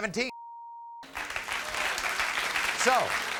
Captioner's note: crowd applauds